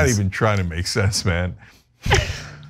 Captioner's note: laugh